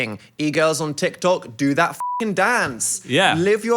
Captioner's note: beeps